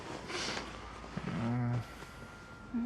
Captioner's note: sheets rustling; Tania sniffles; Isaac groans